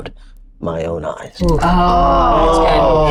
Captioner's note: group groans